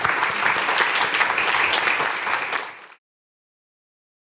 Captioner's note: audience applauding